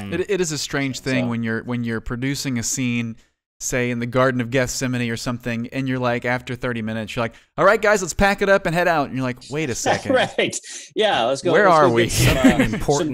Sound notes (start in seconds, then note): 11.8 laughs